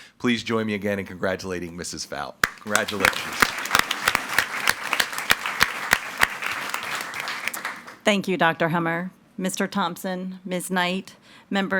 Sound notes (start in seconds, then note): 2.4 audience applauding